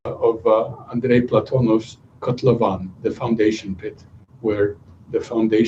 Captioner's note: non-english speech